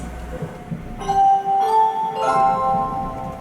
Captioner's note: sunrise chime